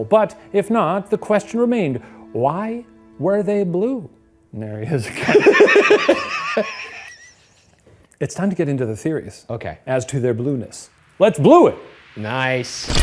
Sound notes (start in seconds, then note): 5.0 both laughing; 12.8 upbeat music